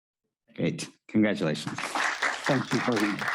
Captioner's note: audience applauding